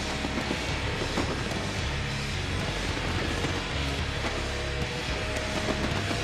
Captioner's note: fireworks popping continues; upbeat rock music continues